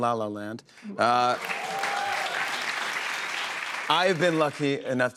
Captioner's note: cheers and applause